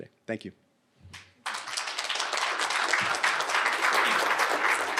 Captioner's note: applause